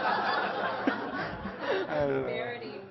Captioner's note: Laughter; 笑聲